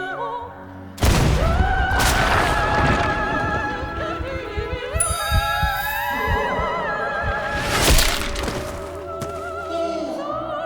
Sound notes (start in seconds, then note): 1.0 gunshot; 5.0 clink; 7.1 muffled squelch